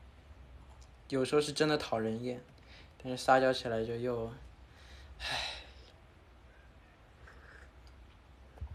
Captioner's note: exasperated sigh